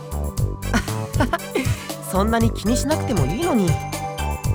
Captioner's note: awkward laugh